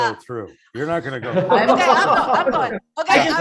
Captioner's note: laughter